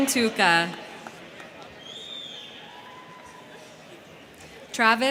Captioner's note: crowd clapping; crowd cheering